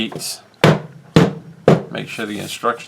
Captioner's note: thud, thud thud